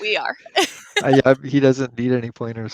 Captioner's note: laughter